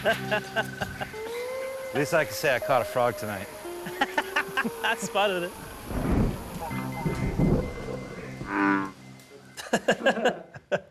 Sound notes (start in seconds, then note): 3.8 laughing; 5.6 thunder rumbling; 8.1 laughing; 8.2 frog ribbiting